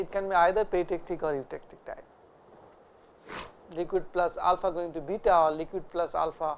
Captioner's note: vocalized noise